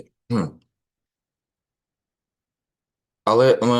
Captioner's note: clearing throat